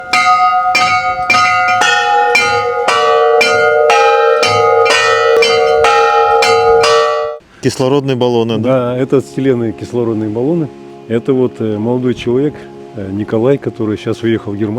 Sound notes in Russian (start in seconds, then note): 6.4 колокольчик